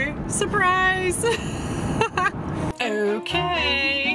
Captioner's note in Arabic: ضحك